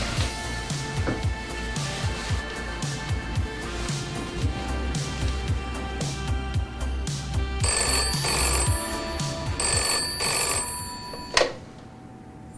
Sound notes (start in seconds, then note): 4.5 cool music playing; 7.4 phone rings